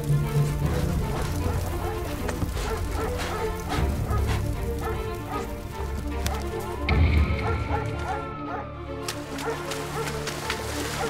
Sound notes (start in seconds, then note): 4.0 dog barking; 4.0 footsteps; 8.0 siren wails